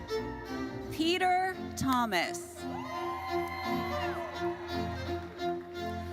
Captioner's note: audience cheers